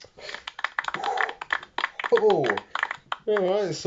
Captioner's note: some applause